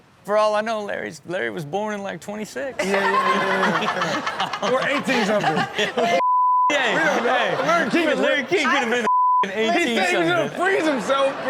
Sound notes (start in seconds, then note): 2.8 Chanel laughs; 6.1 beep; 9.0 beep